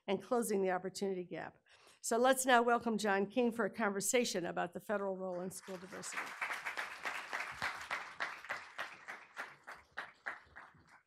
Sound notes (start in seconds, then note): 5.6 audience applauding